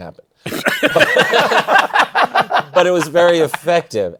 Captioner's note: laughter